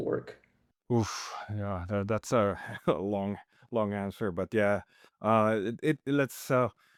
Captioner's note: chuckles